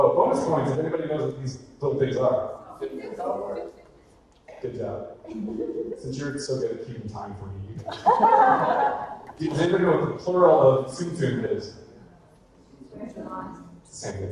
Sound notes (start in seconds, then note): 1.8 audience chatter; 7.8 woman laughing